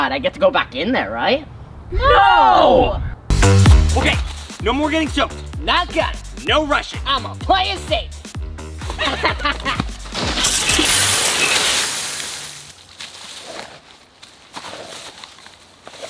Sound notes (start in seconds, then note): 3.2 upbeat music; 8.9 laughing; 10.2 water spraying